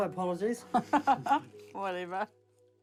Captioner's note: chuckles